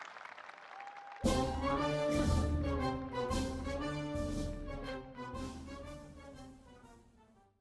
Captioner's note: applause